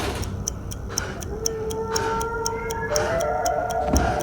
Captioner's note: victim pants